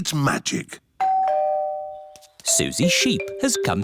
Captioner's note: doorbell